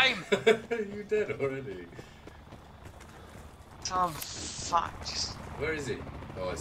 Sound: laughs smugly

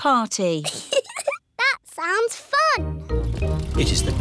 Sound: giggles

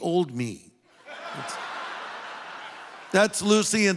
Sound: audience laughing

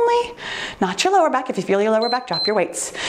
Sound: timer beeps

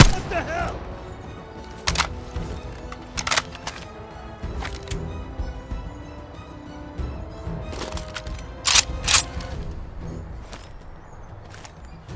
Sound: gunfire

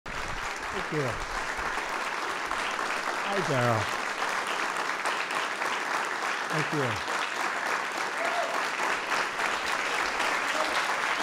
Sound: applause

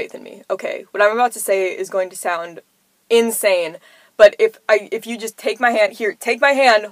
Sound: stammering

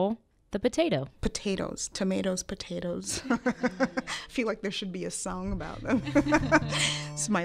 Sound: laughs

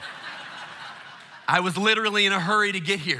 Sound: congregation laughing

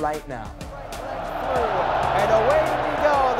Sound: crowd cheers

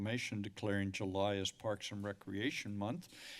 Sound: inhales

